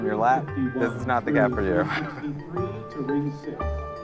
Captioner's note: chuckles